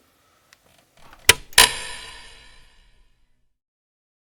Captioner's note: light clicks